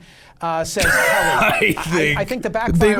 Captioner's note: laughing